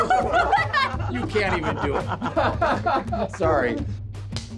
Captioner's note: laughter